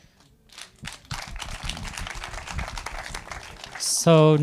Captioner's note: audience applauding